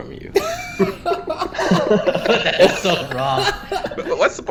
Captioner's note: laughs